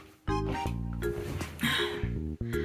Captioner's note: sigh